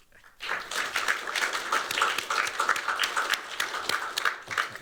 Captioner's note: applause